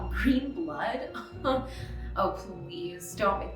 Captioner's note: chuckles